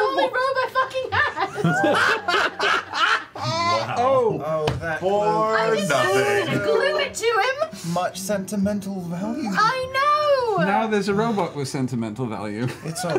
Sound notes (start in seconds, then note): 1.0 laughs; 6.6 shouts; 10.0 shouts